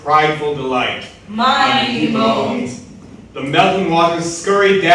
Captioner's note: in Unison